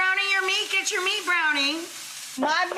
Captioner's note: meat sizzling